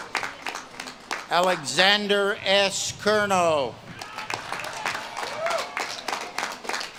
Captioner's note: audience claps and cheers; audience claps and cheers